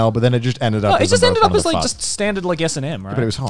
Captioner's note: murmurs